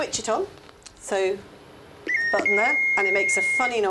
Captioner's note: defibrillator beeping